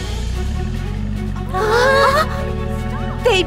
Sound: all gasp

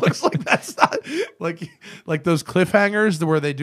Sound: laughter

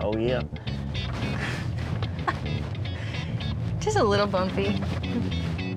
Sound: chuckling

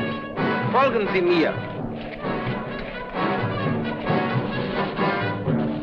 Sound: speaking in a foreign language

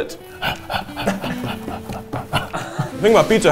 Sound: pants

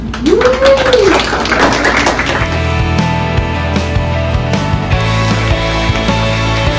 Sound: class applauds; class cheers

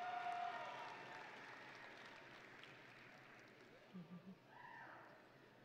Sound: audience and graduates cheering

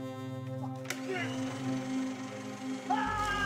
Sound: shredder whirring

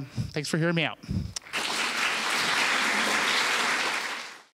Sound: applause

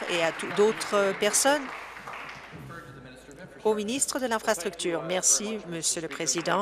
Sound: applause

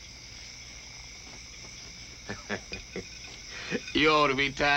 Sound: laughs

